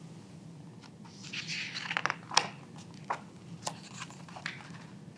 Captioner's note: pages rustling